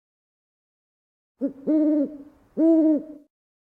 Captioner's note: owl hooting